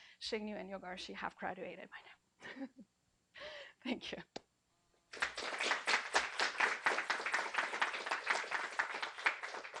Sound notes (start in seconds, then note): 5.1 applause